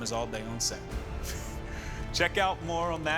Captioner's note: chuckles